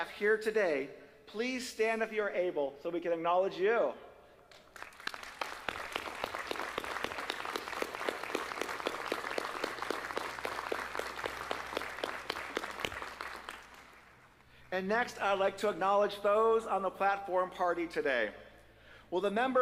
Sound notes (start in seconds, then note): 6.7 applause